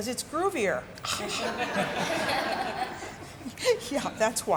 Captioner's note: spectators laughing